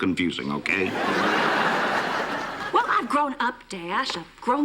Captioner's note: laughter